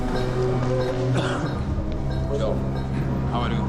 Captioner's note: coughs